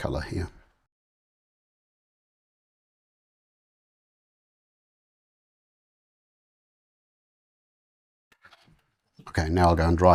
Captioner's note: silence